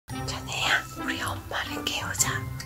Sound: whispering

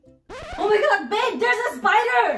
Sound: record scratch

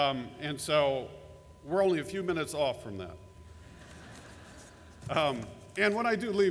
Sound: laughter

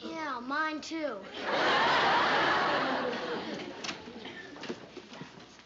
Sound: laughter

